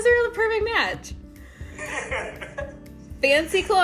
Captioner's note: laughter